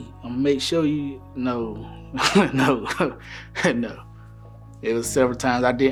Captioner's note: laughing